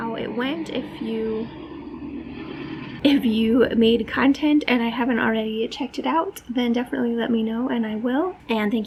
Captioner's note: truck noise